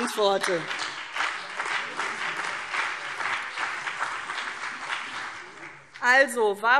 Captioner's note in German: Beifall CDU und BÜNDNIS 90/DIE GRÜNEN